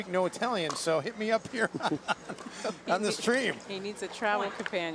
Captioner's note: laughs